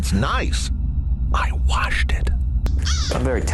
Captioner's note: whispering